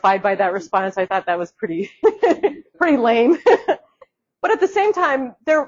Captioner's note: laughs